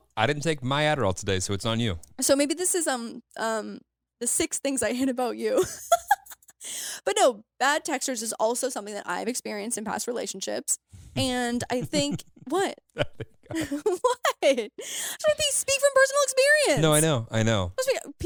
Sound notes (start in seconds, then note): 5.6 laughs; 11.1 laughs